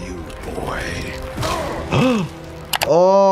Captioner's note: flesh spattering; Jordan gasping; screen clicking